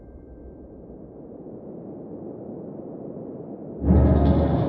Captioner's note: wind whooshing; foreboding music